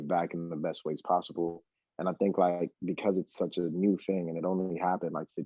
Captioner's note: laughs